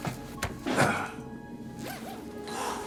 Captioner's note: chopping; moan